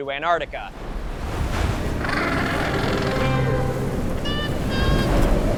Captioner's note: wind blowing; penguin call; wind blowing